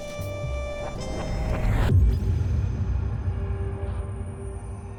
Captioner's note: eerie, mysterious transition sound